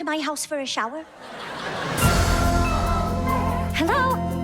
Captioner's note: laughter